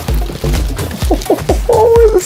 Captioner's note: laughing